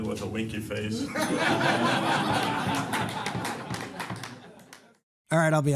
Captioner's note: laughter